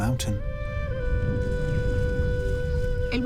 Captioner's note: distant rumbling